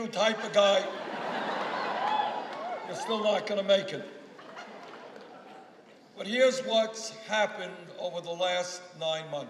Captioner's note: applause